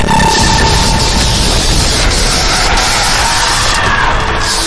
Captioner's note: lasers blasting